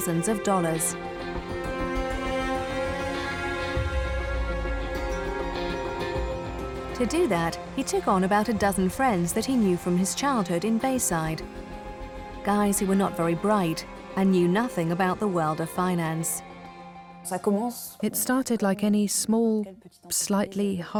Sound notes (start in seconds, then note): 16.5 non-english speech